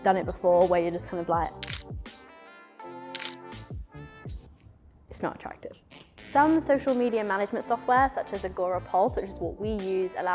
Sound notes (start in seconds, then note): 3.1 camera clicking